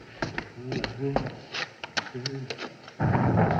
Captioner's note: muttering